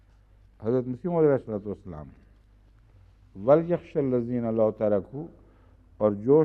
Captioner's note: Arabic